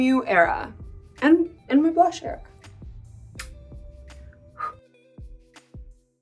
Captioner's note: blows kiss; soft relaxing music